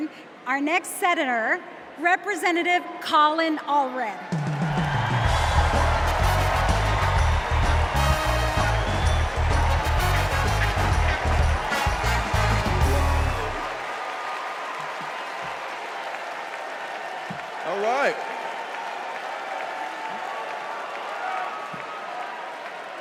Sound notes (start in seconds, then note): 8.0 cheers and applause